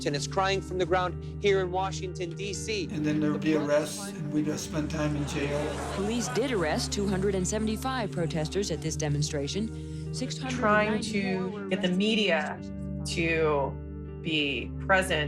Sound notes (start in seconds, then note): 7.8 soundbite of archived recording; 15.0 soundbite of montage